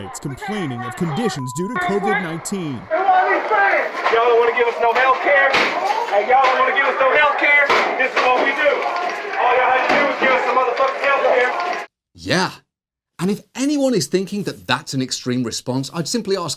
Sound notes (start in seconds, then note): 3.3 inmate shouting